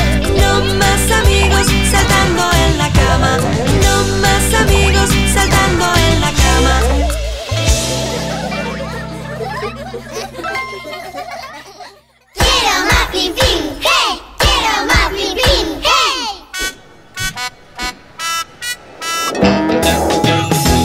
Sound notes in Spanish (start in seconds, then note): 7.6 Risas; 16.4 Sonido de bocina; 19.1 Música Alegre